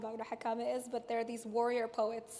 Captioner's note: speaks in foreign language